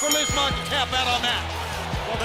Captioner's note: bell ringing